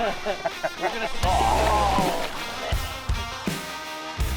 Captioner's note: laughing; rock music